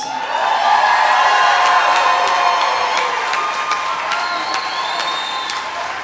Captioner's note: applause